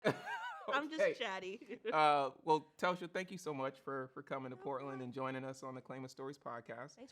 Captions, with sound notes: - (laughs) Okay. - I'm just chatty. - Well, Telsha, thank you so much for coming to Portland and joining us on the "Claima Stories" podcast.